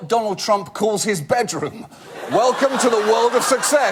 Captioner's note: audience laugh